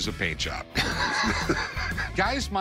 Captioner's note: laughs